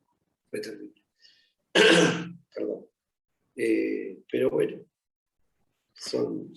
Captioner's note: coughs